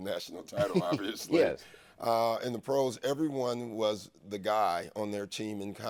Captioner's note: laughs